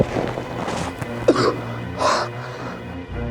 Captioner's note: coughs